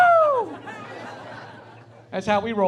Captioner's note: laughing